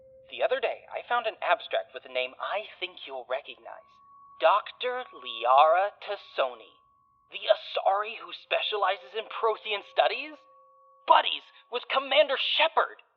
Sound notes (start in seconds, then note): none